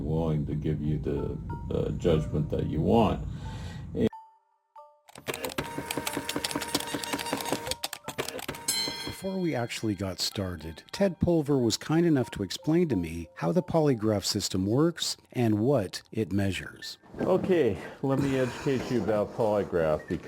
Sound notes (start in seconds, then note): 5.1 machine humming